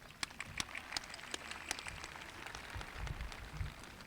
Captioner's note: audience applauding